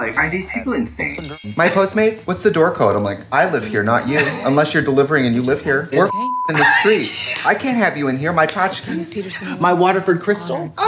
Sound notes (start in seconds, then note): 6.0 beep